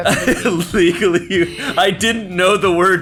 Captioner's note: laughing